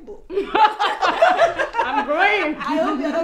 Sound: laughter

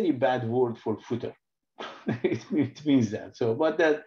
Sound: laughs

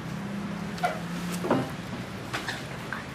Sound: door opens

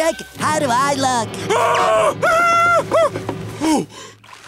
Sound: screaming

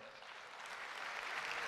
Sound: applause

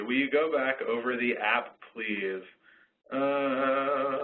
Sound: voiceover

